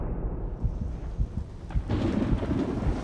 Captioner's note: thunder crashing